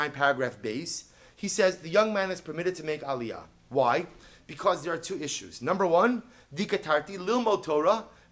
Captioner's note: Hebrew